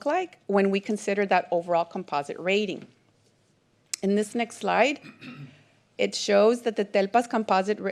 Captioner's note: clears throat